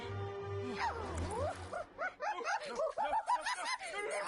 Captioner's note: gnome laughing maniacally